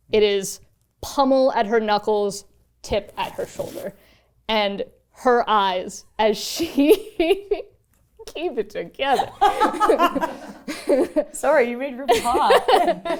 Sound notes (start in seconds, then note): 7.3 laughs; 9.5 laughing